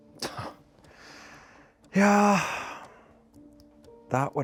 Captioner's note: sighs